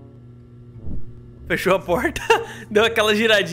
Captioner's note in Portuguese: risos